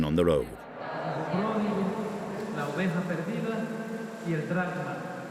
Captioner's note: Spanish spoken audio